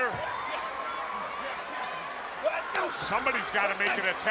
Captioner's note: crowd cheering